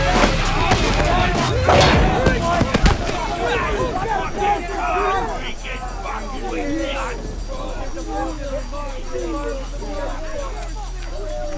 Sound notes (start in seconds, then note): 0.2 gangsters clamoring; 2.8 gangsters jeering; 2.8 suspenseful music